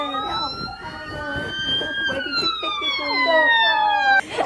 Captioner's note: police sirens screaming; girls laughing